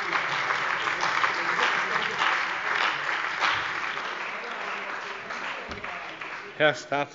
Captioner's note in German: Heiterkeit – Beifall bei Abgeordneten der CDU